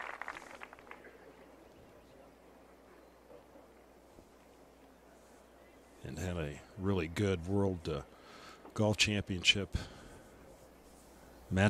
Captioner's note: applause